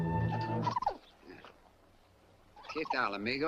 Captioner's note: squirrel chatters; Lin speaks Spanish